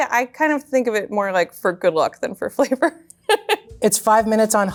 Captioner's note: laughs